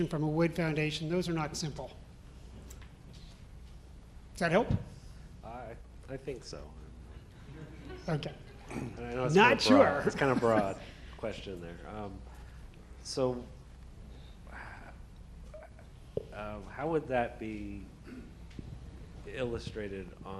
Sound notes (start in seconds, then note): 9.9 audience laughs